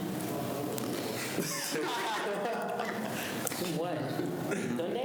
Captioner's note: students laugh